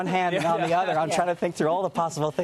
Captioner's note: laughter